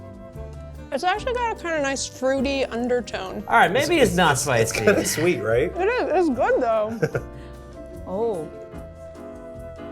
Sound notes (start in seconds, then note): 7.0 chuckles